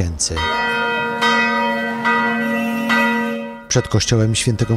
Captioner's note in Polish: Dzwon kościoła